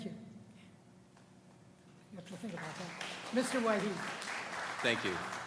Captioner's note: applause